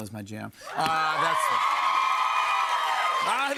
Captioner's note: cheers and applause